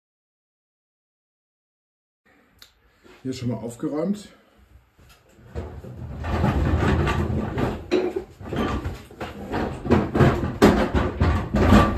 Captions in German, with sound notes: Der Patient Hier ist schon mal aufgeräumt *rumpel - rumpel*